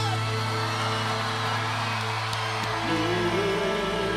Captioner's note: audience cheering